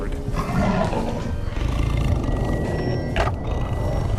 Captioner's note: tiger growling